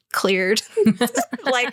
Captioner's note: laughter